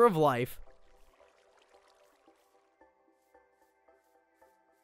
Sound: water splashes

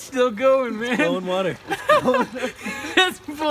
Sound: laughing

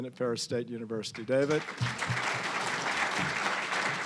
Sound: applause

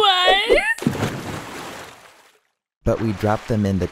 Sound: splash

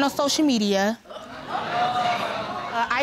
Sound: audience exclaiming

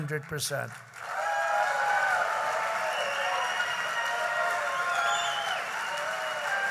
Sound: applause

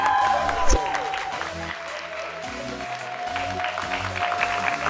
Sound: cheers and applause

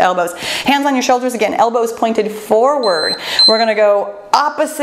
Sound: timer beeps

